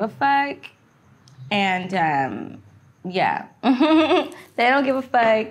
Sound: laughing

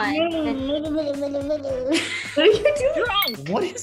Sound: mumbling

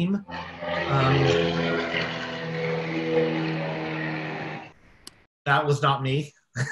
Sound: airplane rumbling overhead

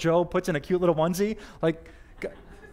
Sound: audience: Laughter

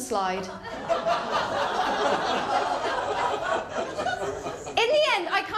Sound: laughter

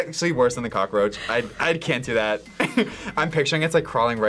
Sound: laughs

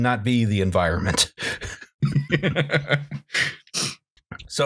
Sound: laughter

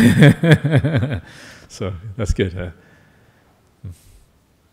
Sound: laughs

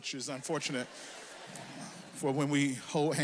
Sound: audience laughs

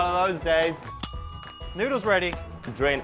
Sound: timer ringing

